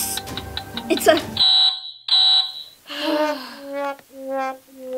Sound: timer goes off; sighing; disappointing tune

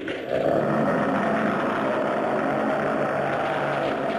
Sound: Gammera roars

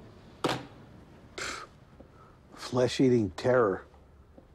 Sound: scoffs

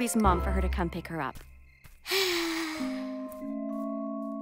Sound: sighs

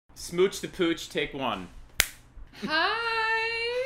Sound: snap

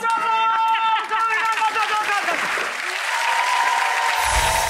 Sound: audience applause

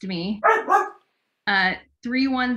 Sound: dog barking

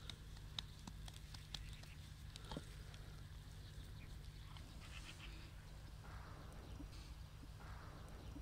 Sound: sound of birds

